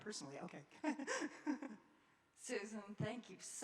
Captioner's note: laughing